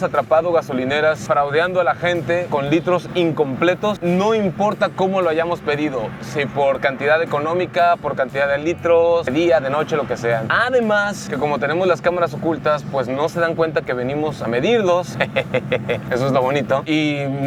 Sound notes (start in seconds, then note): 15.1 laughter